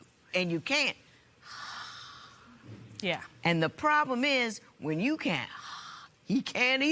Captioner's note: sighs